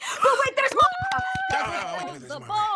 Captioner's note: group cheering